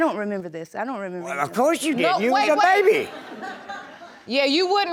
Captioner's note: audience laughs